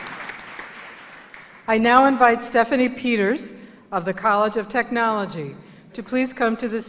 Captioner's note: applause